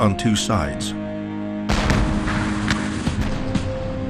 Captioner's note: cannons fire